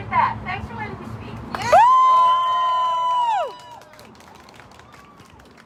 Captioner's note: cheering